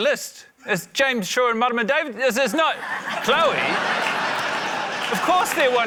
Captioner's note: laughter